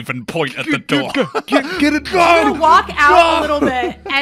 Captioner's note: laughs